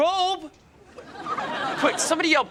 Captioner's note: off-screen laughter